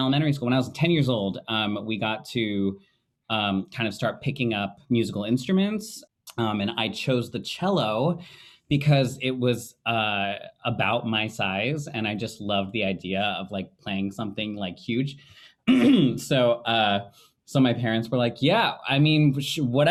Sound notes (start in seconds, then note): 15.6 clearing throat